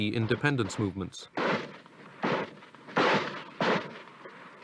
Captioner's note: gun shots